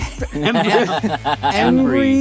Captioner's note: laughter